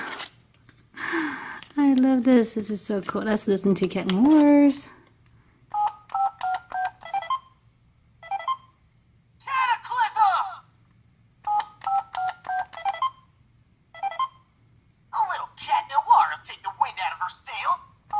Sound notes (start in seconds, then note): 1.9 voiceover; 5.7 beeping; 11.3 beeping